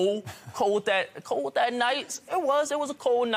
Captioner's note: laughing